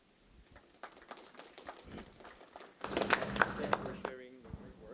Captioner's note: applause